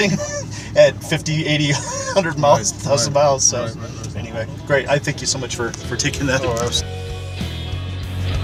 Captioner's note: laughs